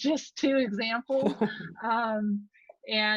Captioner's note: laughs